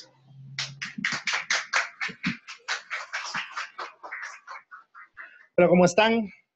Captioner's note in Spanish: aplausos